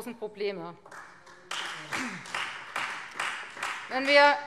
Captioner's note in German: Beifall Freie Demokraten